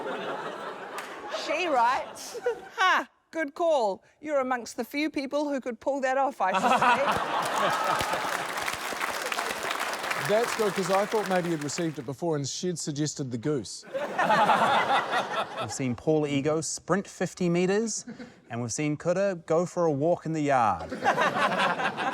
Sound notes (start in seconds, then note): 0.0 laughter; 2.2 giggles; 6.5 laughter; 13.8 laughter; 20.8 laughter